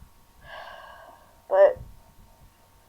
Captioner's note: sighs